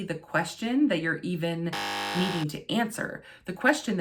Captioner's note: buzz